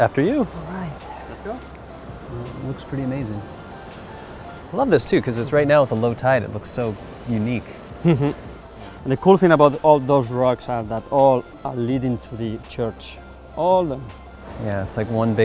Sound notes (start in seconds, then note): 7.8 laughs